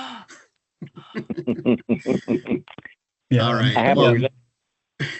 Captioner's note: council members laughing